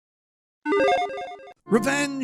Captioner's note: electronic chiming